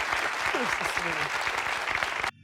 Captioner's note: audience clapping and cheering; audience cheering; audience clapping and cheering